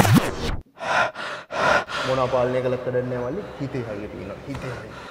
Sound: panting

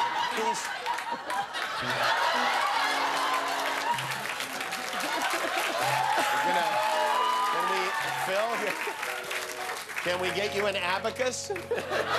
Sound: laughter; cheers and applause

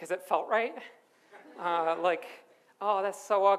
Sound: audience laughs

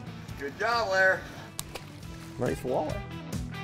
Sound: water splashing

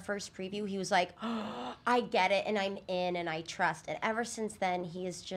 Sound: gasping

